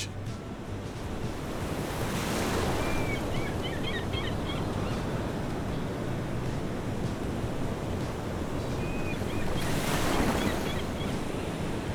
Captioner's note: coastal sounds